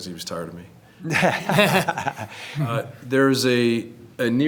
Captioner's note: people laughing